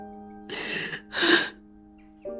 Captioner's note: sobbing